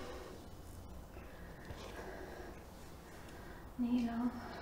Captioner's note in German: schweres Atmen